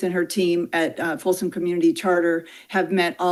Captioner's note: none